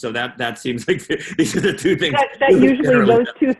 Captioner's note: chuckles